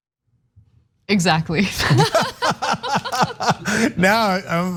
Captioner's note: laugh